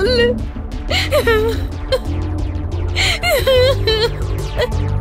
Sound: crying

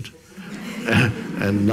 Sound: audience laughs

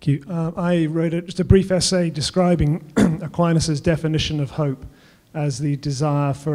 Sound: cough

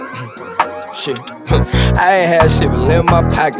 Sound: alarm blaring

